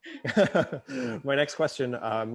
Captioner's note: all laughing